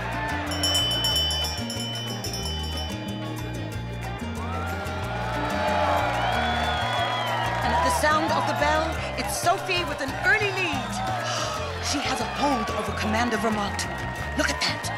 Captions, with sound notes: (bell rings) (crowd cheers) - And at the sound of the bell, it's Sophie with an early lead. She has a hold over commander Vermont, look at that.